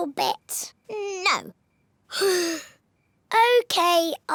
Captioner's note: sighs